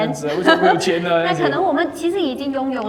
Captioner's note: laughter